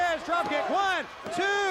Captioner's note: crowd cheering